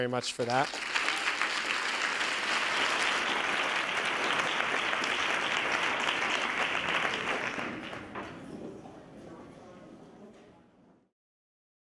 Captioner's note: applause